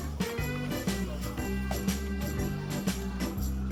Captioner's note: laughs